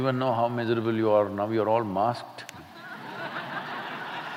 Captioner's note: laughter